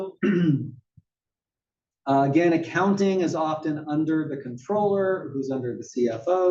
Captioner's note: cough